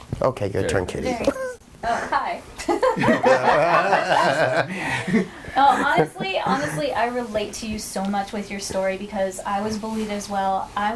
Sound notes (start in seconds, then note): 2.6 all laughing